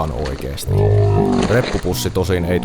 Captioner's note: some mandatory slow-mo grunts